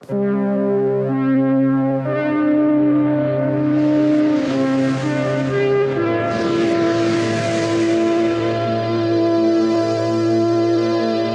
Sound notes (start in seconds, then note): 0.2 epic sounds; 6.3 sounds of light and ether